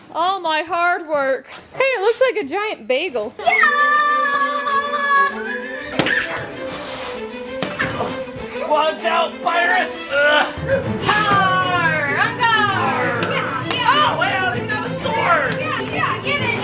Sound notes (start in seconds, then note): 4.3 yells